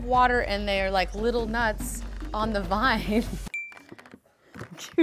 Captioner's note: laughs; ping